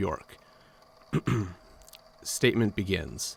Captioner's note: clears throat